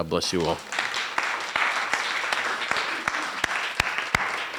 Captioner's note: applause